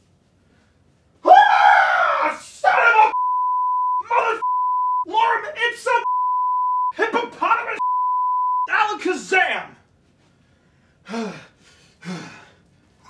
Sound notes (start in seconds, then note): 1.2 yelling; 4.4 beep; 10.3 breathing heavily